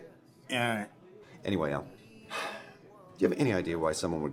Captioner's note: sighs